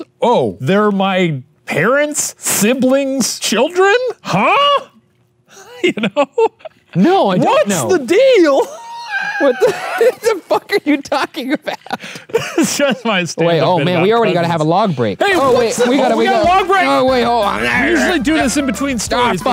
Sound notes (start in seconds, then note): 5.5 laughs; 8.5 laughs; 12.9 laughing; 17.8 grunts